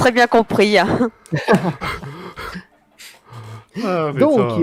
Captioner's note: laugh